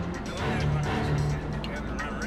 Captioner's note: indistinct chatter